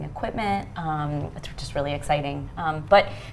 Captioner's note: none